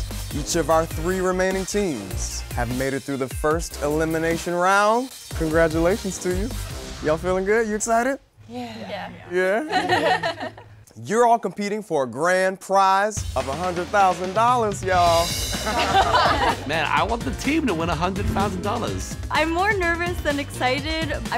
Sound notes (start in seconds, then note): 9.4 laughing; 15.6 laughing